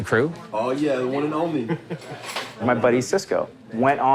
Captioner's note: laughs